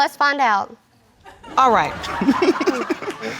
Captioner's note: all laughing